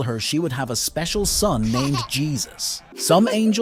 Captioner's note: baby giggles